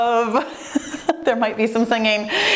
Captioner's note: laughs